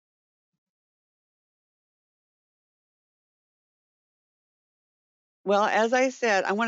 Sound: 5 seconds pause

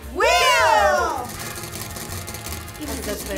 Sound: wheel rattling

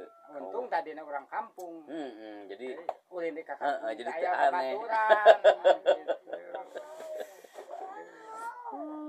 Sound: laughs

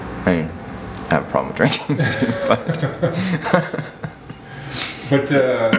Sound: laughing

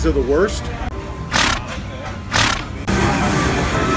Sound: horse snorting sounds

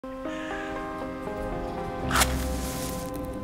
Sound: match being lit

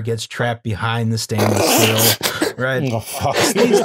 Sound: laughter

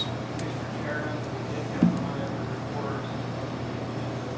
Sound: faintly speaking

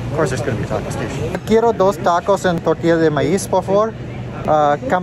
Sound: speaking Spanish

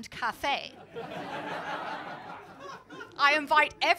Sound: laughter

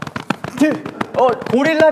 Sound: exclamation

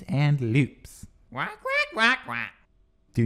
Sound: squawks

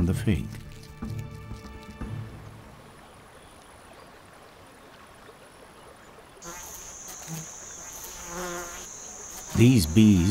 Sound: bee buzzing; birds chirping

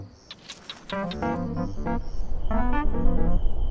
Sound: gecko chirping

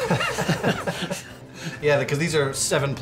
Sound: laughs

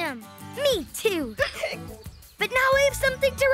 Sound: hiccuping

